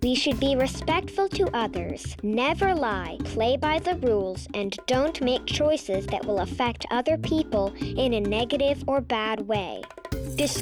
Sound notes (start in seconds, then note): none